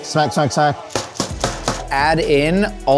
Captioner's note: tray banging on counter